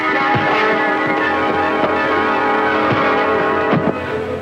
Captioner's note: intense music; fist pounding; body thuds